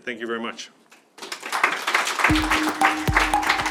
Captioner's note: clapping; upbeat music